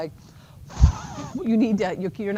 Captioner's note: huffs